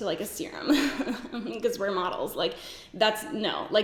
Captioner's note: giggles